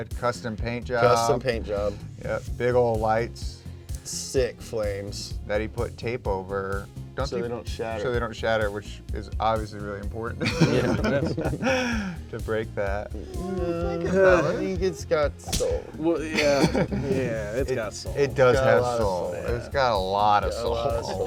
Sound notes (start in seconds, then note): 10.4 all chuckles; 16.2 chuckles